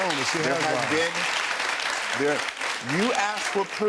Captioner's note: audience applauds